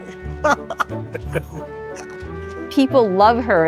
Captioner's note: laughing